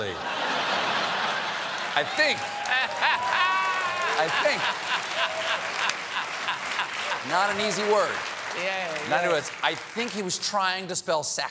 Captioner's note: laughter